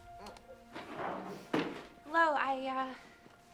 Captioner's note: crying